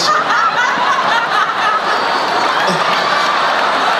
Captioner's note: laughing